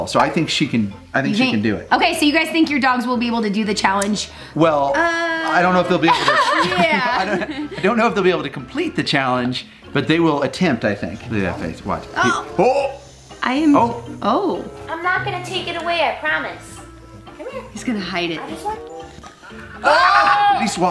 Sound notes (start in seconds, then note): 6.0 laughs; 19.5 group groans